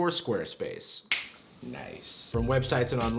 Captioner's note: snaps fingers